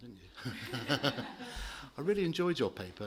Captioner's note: laughter